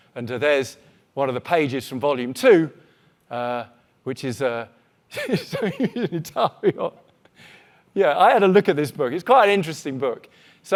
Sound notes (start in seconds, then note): 5.2 laughing